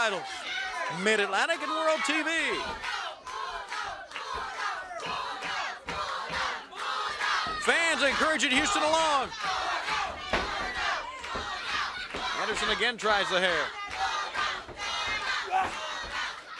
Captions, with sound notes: HE'LL HAVE TWO TITLES, MID-ATLANTIC AND THE WORLD TV. >> [CROWD CHATTER] >> FANS ENCOURAGING HOUSTON ALONG. ANDERSON AGAIN TRIES THE HAIR.